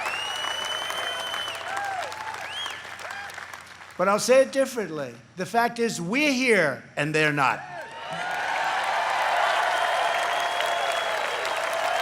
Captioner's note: applause